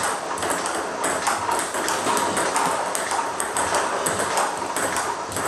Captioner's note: ball ping pong hitting continues